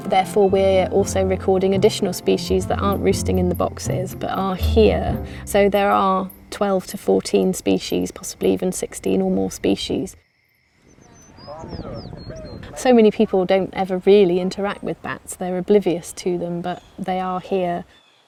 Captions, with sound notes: therefore we're also recording additional species that aren't roosting in the boxes, but are here. So there are 12 to 14 species, possibly even 16 or more species. (birds chirping) So many people don't ever really interact with bats, they're oblivious to them, but they are here.